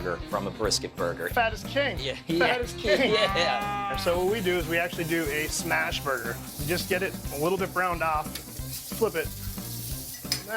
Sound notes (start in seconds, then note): 3.3 cow mooing; 8.9 meat sizzling